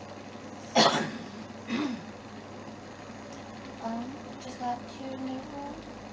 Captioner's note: cough